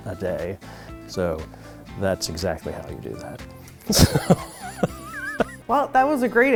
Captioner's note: laughter